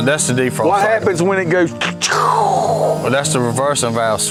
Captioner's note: growling